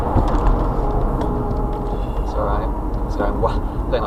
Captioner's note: fairly hard braking sounds